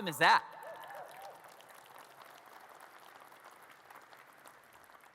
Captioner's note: audience cheers and claps